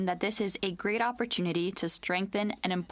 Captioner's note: speaking French